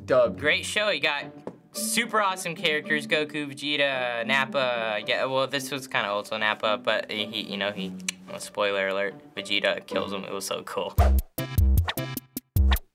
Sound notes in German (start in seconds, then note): 8.0 Click; 11.0 schmissiges Intermezzo